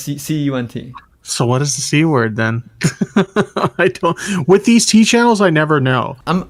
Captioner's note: laughs